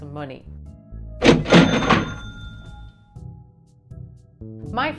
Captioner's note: cash register dings